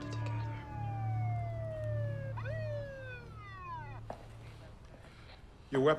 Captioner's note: police siren wailing